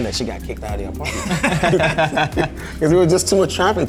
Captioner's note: everybody laughs